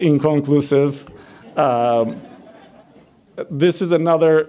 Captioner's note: audience laughs